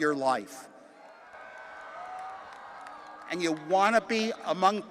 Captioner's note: attendees cheering